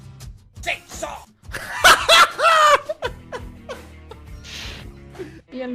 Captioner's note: laughs his ass off